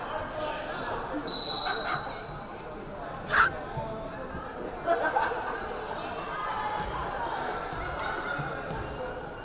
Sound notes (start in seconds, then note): 1.3 whistle blaring; 5.4 crowd chattering